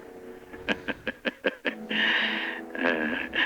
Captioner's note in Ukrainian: сміється